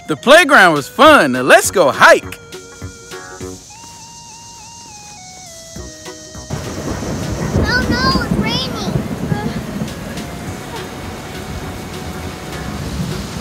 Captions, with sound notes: - The playground was fun. Now let's go hike. (upbeat music) (thunder claps) - Oh no, it's raining! (pouring rain)